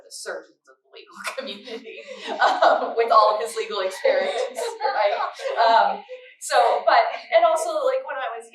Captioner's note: laughter